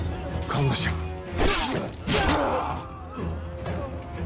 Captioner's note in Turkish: Kılıç ve dövüş sesleri